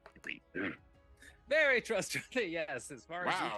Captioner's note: laughing